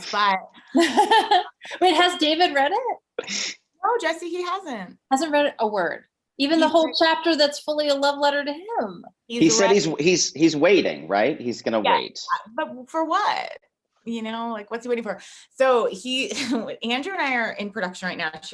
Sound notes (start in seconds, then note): 0.7 Jessie laughing